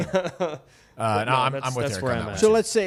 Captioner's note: laughs